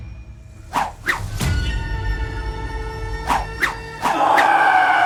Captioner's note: weapons swishing; man screaming